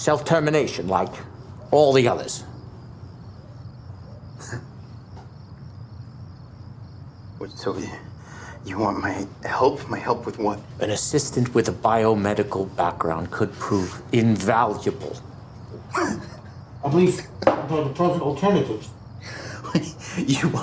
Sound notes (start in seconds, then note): 4.3 Miles chuckles; 15.8 Miles chuckles